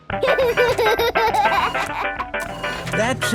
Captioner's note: giggling; giggles, snorts; music fades